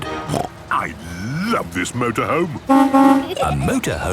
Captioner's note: honking